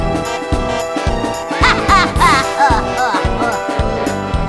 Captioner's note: retarded junior laugh